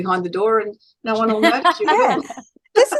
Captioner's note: everyone is laughing